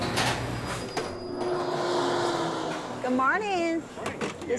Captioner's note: sounds of restaurant